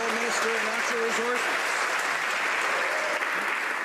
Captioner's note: some Applause